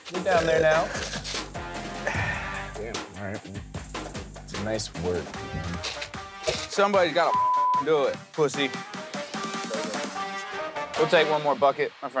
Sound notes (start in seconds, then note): 7.3 beeps; 8.4 electronic music